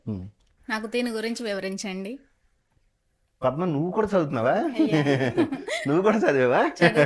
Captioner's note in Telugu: నవ్వు